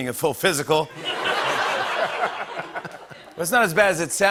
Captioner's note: laughter